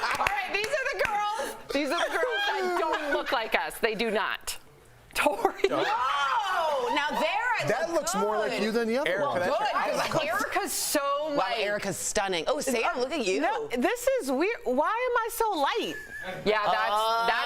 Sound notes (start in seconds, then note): 4.6 laughter